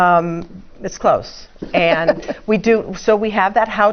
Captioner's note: laugh